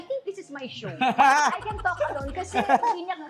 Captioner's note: laughs